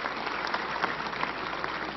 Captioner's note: applause